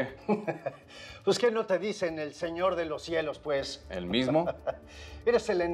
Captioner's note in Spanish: Ríe